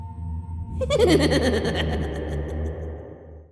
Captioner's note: creepy laughter